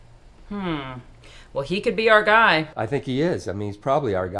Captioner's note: none